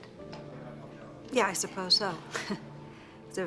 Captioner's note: chuckles